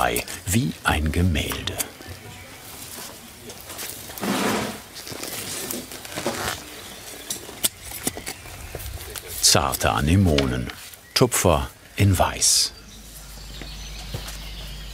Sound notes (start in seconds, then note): 5.0 voices in the background; 13.6 birds chirping